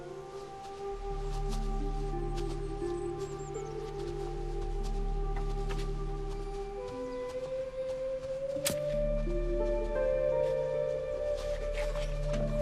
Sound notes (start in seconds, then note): 3.2 birds chirping